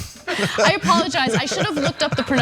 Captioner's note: laugh